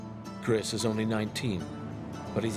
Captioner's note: voiceover